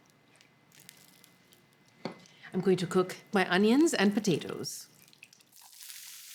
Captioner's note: sizzling